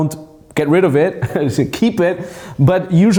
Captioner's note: laughs